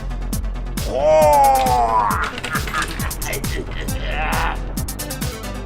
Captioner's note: exclaiming, laughing